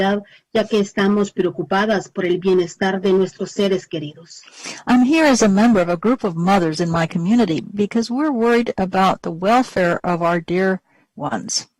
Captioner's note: speaking spanish